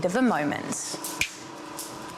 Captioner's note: clicks fingers